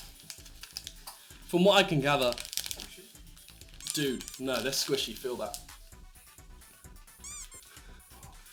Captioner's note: squishy sounds